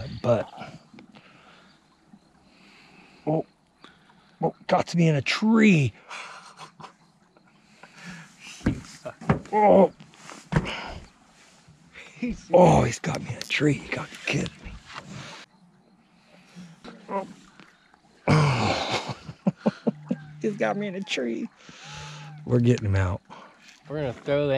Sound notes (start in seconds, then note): 6.0 chuckling; 11.6 straining; 14.6 chuckling